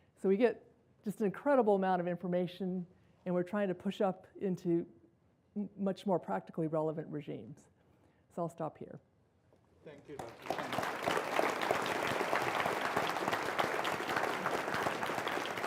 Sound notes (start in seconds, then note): 11.6 audience applause